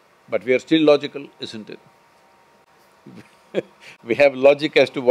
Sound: laughs

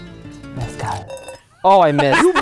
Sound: liquid drips; whispering

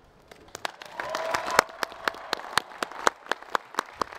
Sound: audience cheering

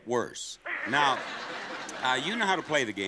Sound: audience laughing

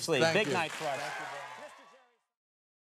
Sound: audience applauds

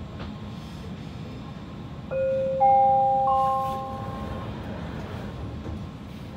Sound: door Closing Chime

